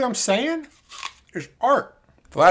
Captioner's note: crunch